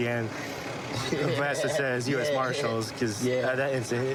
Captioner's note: laughing